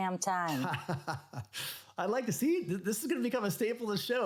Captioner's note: laughs